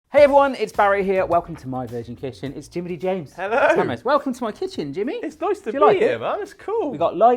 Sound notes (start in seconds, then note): 3.4 laughs